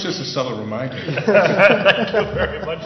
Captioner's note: laughter